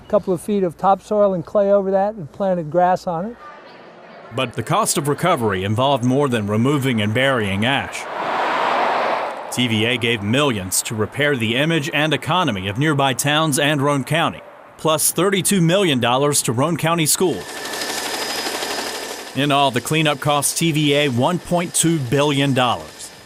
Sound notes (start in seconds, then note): 8.2 car drives; 17.5 helicopter rotor